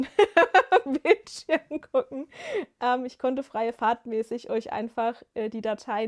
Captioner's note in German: gelächter